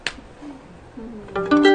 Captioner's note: clapping